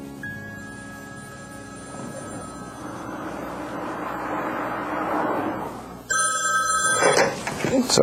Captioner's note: phone ringing